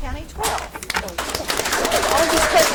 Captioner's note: audience applauds